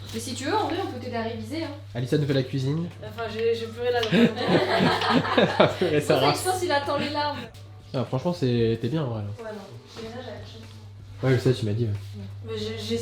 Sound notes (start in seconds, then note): 4.0 laughs; 7.9 laughs